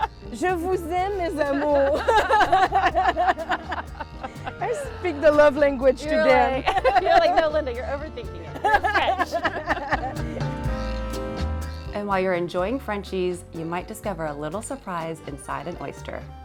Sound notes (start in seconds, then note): 1.4 laughing; 8.5 laughing